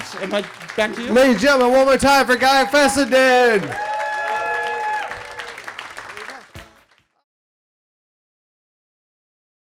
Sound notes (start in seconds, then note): 3.7 attendees cheering and clapping